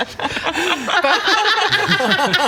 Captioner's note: contagious laughter